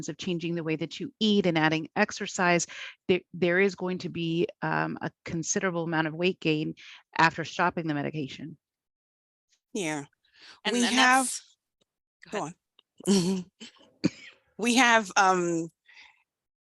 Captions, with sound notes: of changing the way that you eat and adding exercise, there is going to be a considerable amount of weight gain after stopping the medication. - Yeah, we have... - And then that's... - Go ahead. - Go on. (laughs) We have...